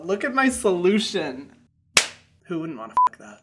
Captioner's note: hand slaps; beep